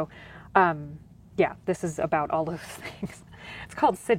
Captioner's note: chuckles